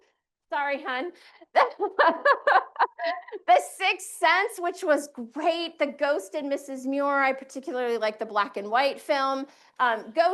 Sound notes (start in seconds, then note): 1.6 chuckles